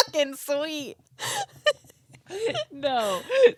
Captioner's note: both laughing